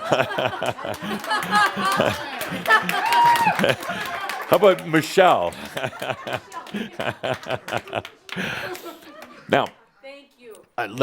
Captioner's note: Adamus chuckles